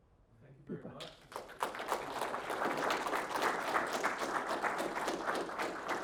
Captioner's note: applause